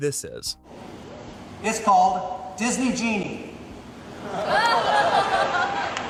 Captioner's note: applause and laughter